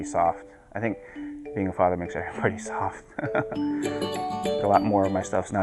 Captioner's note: laughs